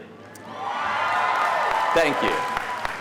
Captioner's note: audience cheering